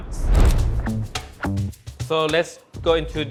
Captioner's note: whoosh sound effect